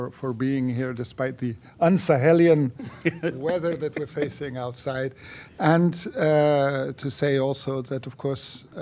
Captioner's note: laughter